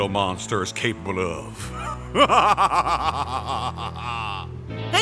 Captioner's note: Etemon laughs very heartily and evilly